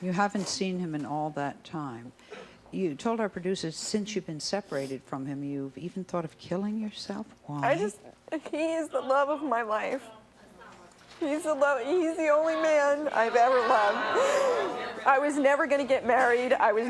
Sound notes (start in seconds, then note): 12.4 sobbing